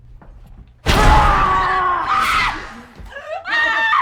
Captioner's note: both screaming